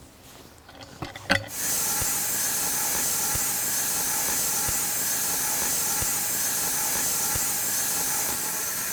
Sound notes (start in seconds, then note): 1.5 saw whirring